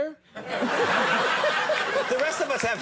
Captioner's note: audience laughs